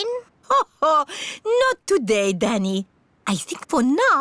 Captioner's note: laughs